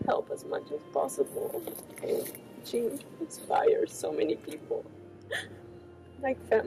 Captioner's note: sobs